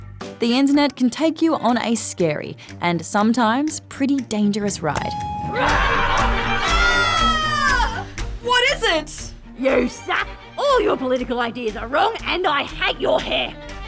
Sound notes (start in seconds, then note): 4.6 roars; 4.7 lift bell dings; 7.0 shrieking